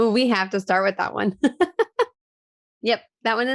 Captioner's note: laughing